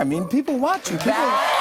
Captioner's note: cheers and applause